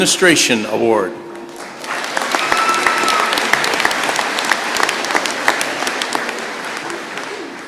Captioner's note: applause